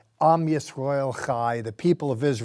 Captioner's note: speaking in Hebrew